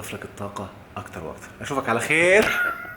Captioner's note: laughs!